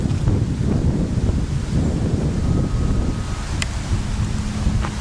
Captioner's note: high Wind